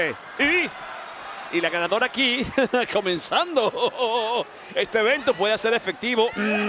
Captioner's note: laugh